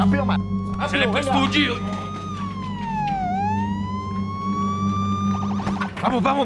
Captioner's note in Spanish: Sirenas sonando